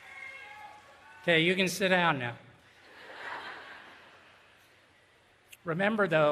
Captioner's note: laughter